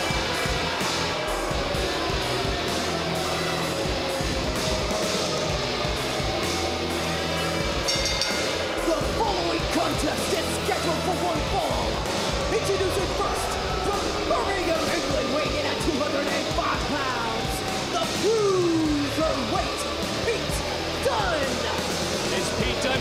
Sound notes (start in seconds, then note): 7.7 bell rings